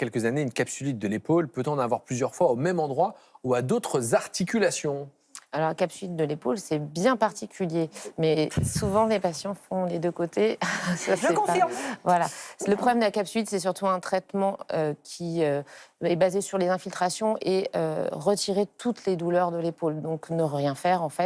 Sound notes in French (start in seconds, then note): 11.6 rires